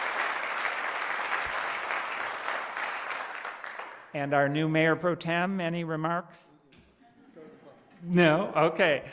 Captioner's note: applause